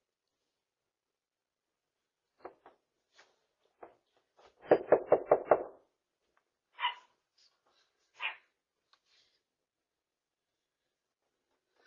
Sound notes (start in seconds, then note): 4.3 Ella barks; 4.7 knocks on door